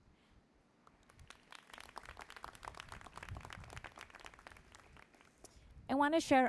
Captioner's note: applause